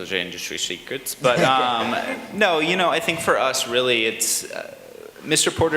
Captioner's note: laughter